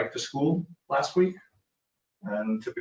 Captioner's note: speaking faintly